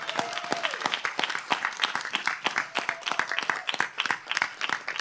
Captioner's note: applause